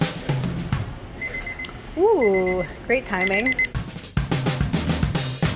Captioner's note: kitchen timer beeps; drum fill